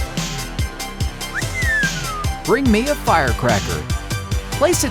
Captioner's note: whistles